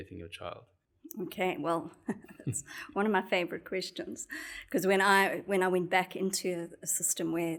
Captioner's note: laugh